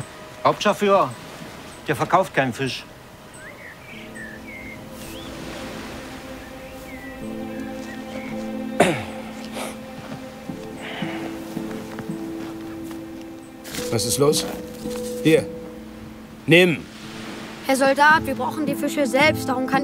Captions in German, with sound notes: Hauptscharführer? Der verkauft keinen Fisch. (Spannungsvolle Musik) (Räuspern) Was ist los? Hier! Nimm! Herr Soldat, wir brauchen die Fische selbst,